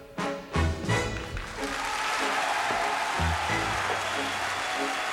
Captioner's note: cheering and applause